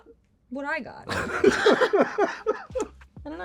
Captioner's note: laughter